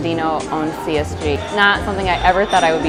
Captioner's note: glassware clinks